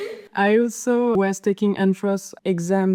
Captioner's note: general laughter